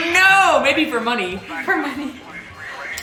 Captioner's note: giggles